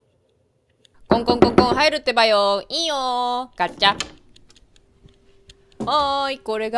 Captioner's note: knocks on my own door